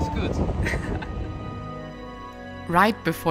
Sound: chuckling

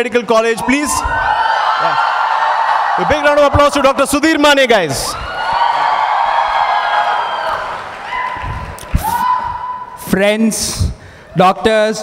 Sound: loud cheering

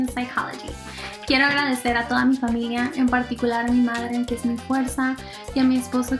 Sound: speaks in foreign language

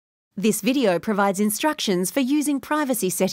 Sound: voiceover

